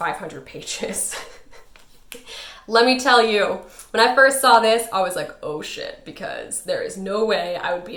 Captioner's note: laughs